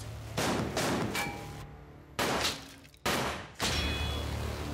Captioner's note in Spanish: continúa la balacera